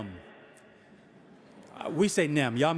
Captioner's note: audience laughing